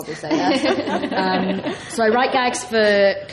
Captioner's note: laughs